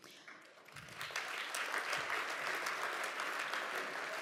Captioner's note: audience applauds